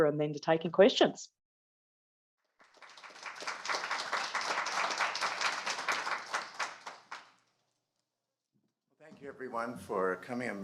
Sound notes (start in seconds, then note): 2.5 applause